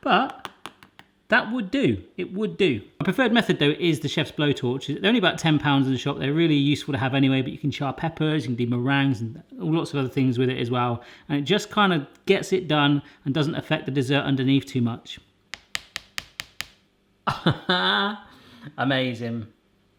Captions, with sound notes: But... (tapping) That would do. It would do. My preferred method, though, is the chef's blowtorch. They're only about 10 pounds at the shop, they're really useful to have anyway, you can char peppers, you can do meringues and lots of other things with it as well. And it just kind of gets it done and doesn't affect the dessert underneath too much. (tapping) (laughing) Amazing.